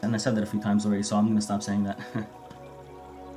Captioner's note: chuckle